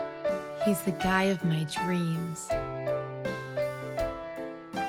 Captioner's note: voiceover